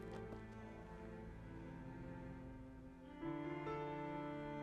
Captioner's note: hooves clomping